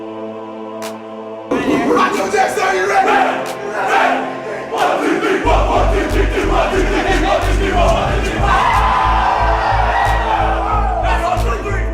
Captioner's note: team Cheering